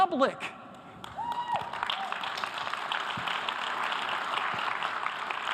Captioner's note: audience applause